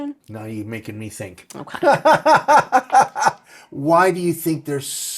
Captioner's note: laughing